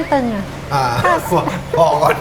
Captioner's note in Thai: หัวเราะ